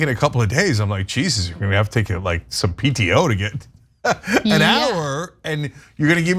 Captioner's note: laugh